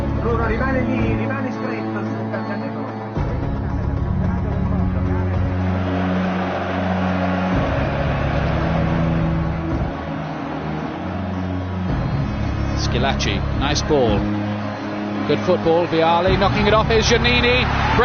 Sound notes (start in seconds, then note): 0.1 commentator speaking italian; 5.0 crowd buzzing